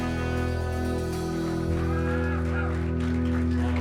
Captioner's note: cheers and applause